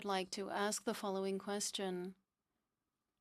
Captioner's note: speaking French